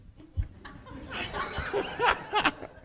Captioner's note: laughter